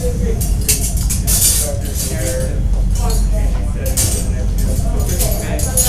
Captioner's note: indistinct chatter